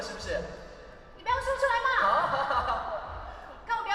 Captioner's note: laughs